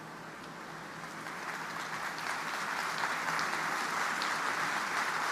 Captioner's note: audience applauding